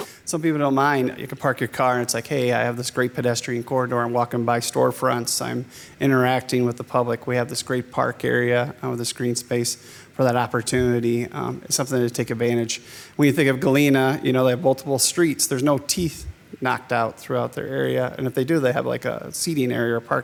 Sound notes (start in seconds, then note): none